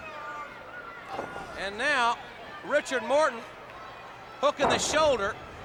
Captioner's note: blows thudding; body thudding